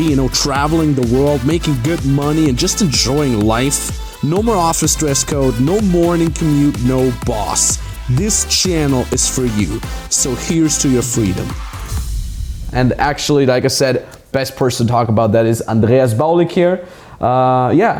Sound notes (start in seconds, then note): 11.0 whooshing